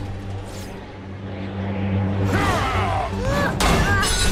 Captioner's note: wind gusting